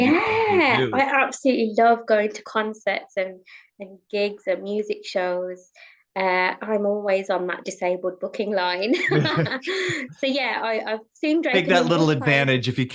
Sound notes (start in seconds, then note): 8.9 both laughing